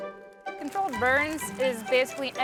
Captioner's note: flames crackling; curious orchestral music